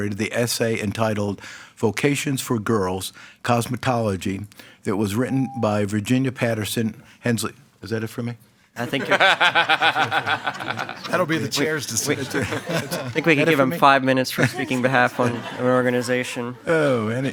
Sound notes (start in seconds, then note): 5.2 timer beeps; 8.8 group laughs